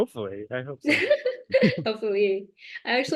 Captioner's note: laughter